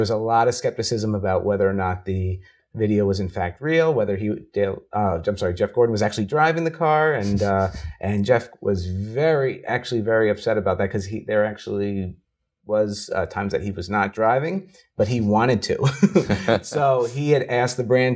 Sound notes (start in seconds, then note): 15.8 laughing